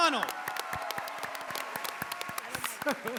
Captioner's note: cheering